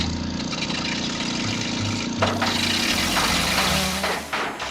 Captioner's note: motor sputters, stops